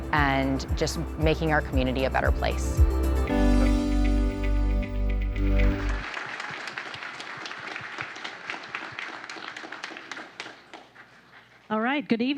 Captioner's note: applause